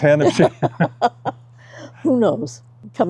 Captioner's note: laughs